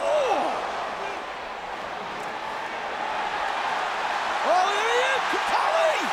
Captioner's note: applause